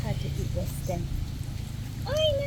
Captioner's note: baby rabbit munches on stem